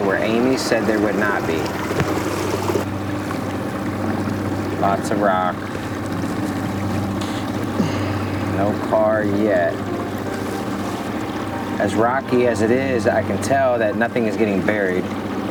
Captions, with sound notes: where Amy said there would not be? Lots of rock. (water splashing) No car yet. (motor puttering) As rocky as it is, I can tell that nothing is getting buried.